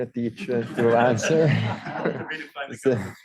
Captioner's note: audience laughing